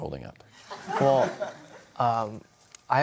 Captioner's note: audience laughter